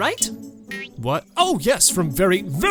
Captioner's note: Gibeonite 2, funny voice and nervous